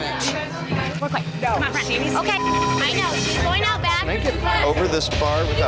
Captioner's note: women fighting